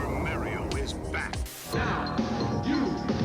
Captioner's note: TV static